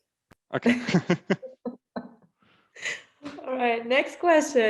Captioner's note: laughter